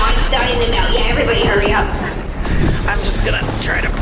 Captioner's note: straining